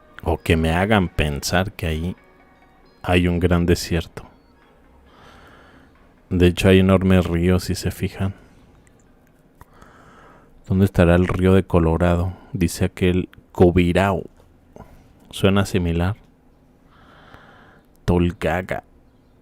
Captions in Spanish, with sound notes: O que me hagan pensar que ahí hay un gran desierto. De hecho, hay enormes ríos, si se fijan. ¿Dónde estará el río de Colorado? Dice aquel Covirau. Suena similar. [suspiro] Tolgaga.